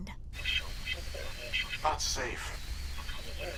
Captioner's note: static